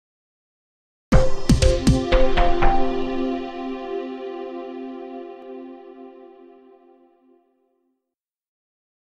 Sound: sound of television news report transition

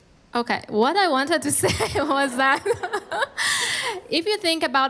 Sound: laughs

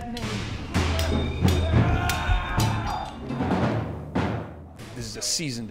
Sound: intense percussion music; screaming

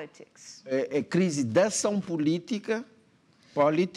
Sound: speaking portuguese

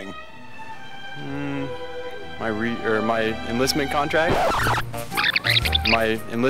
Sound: scratching sound; rewinding sound

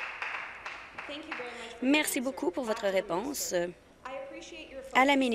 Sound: applause

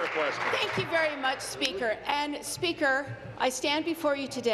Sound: applause

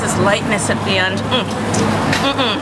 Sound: muah!

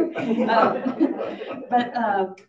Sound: audience laughing

